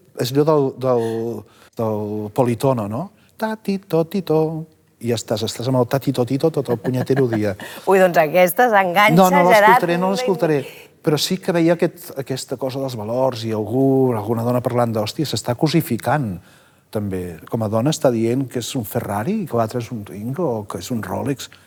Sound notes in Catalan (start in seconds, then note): 3.4 tarareando